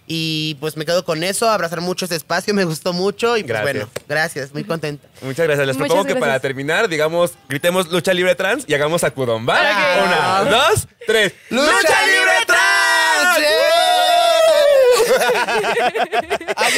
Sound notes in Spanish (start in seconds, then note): 11.5 Hablan las tres al unísono; 14.8 Risas